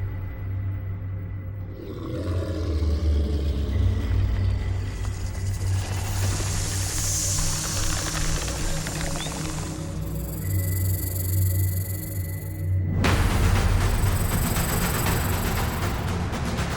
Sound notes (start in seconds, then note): 1.7 snake growls; 4.8 snake hisses; 5.0 snake rattles; 13.0 tense suspenseful music